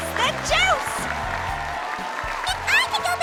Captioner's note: audience applauds